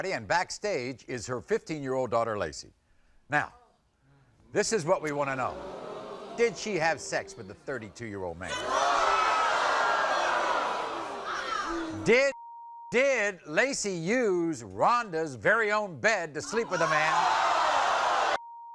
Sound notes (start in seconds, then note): 4.8 audience groans; 8.4 audience shouts; 12.2 beep; 16.4 audience shouts